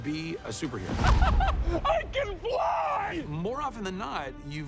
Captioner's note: laughing